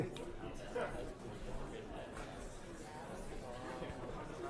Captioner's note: students talking